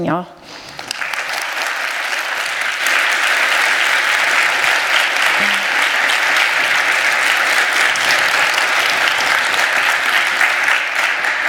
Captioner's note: applause